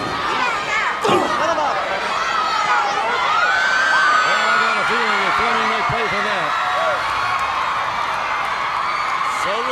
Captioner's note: crowd cheering